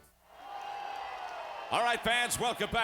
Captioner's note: crowd cheering